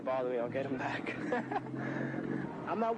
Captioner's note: laughs